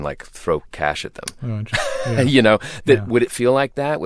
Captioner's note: laughter